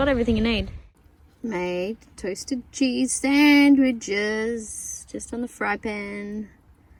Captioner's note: in sing-song manner